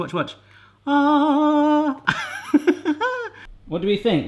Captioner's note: laughs